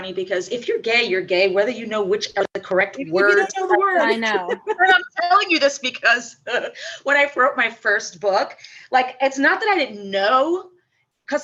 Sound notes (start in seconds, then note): 3.2 laughs